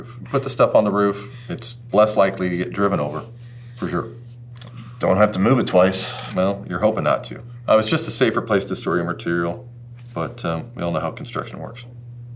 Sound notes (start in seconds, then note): none